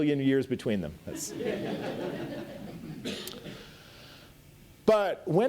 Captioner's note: audience laughs